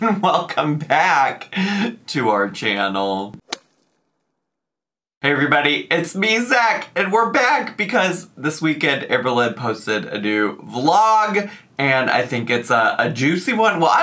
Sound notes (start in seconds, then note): 3.5 logo thuds